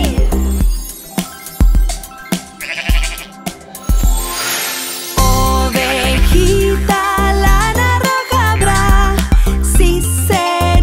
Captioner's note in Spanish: Sonido de oveja